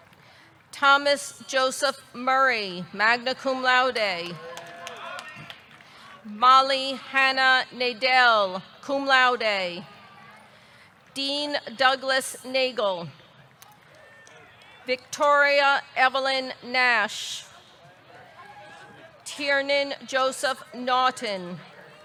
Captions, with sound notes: Thomas Joseph Murray, magna cum laude. (audience cheering) (audience clapping) Molly Hanna Nadel, cum laude. Dean Douglas Nagle. Victoria Evelyn Nash. Tiernan Joseph Naughton.